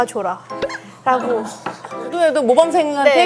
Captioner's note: haha